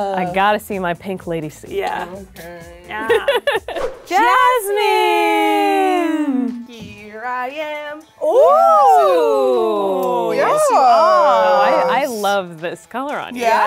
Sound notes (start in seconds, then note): 3.0 laughs